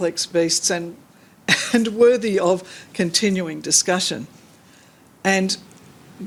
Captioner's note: chuckles